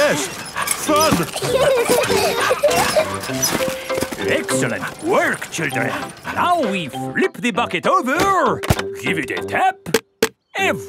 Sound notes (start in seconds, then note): 0.1 straining; 1.7 peppa and george laughing